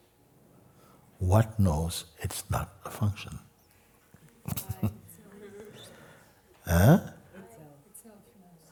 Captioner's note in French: rires